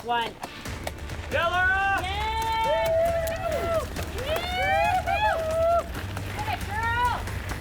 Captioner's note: cheering